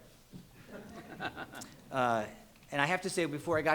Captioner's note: all laughing